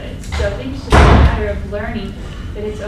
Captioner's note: door slams